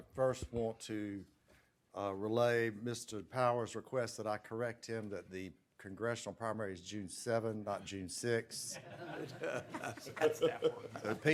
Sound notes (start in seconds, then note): 8.6 laughter